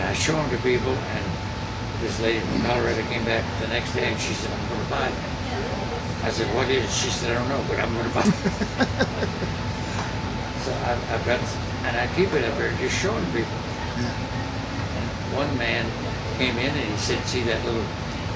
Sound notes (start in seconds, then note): 9.7 laughing